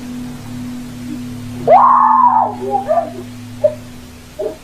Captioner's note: woman screaming